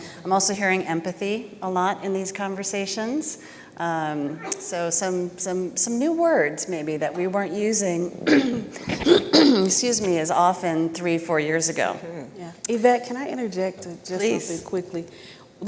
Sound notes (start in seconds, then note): 8.2 clearing throat